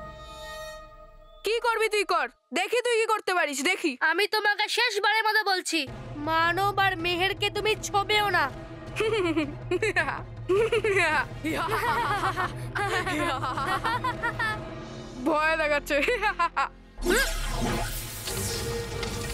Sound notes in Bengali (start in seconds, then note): 11.4 সশব্দ হাসি